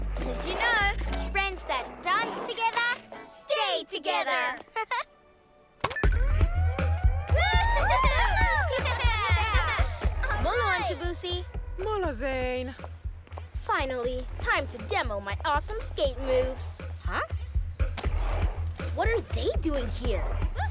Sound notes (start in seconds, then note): 5.5 lively music; 7.2 cheering and laughter